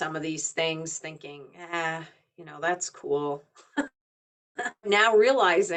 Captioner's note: chuckling